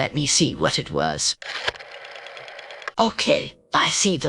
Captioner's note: Windows 95 Plus! Mystery exclamation sound